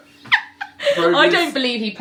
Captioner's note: laughs